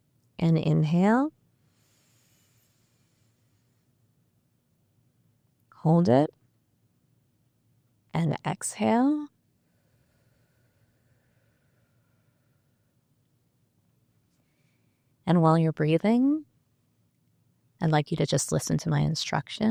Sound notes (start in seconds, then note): 1.5 breathing; 9.6 exhaling